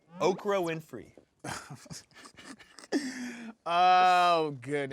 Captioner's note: laughing